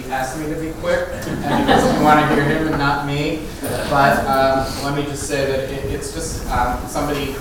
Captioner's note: laugh